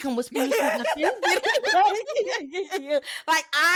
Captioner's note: laughing